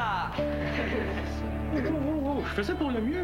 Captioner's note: Rires